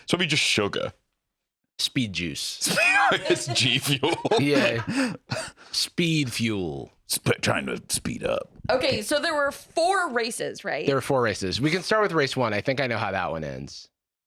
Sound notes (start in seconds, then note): 2.6 laughs